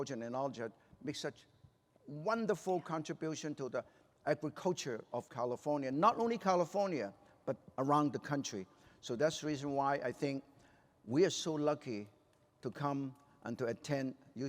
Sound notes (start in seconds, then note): none